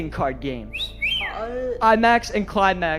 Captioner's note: man in audience whistles